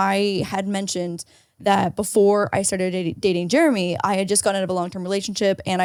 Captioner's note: none